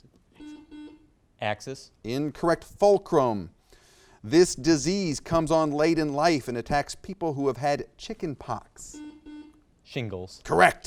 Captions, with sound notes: - Axle? - Axle? (buzzer beeps) Axis. - Incorrect. Fulcrum. This disease comes on late in life and attacks people who have had chicken pox. (buzzer beeps) - Shingles.